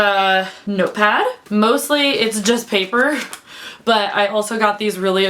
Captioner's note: sound of pages flipping